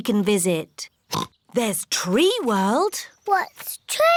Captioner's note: oinks